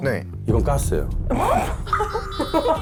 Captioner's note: shocking sound effect